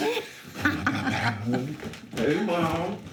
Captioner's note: laughter